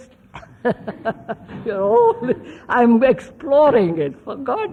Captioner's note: laughs